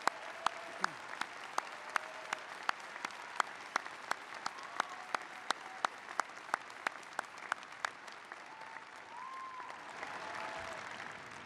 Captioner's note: applause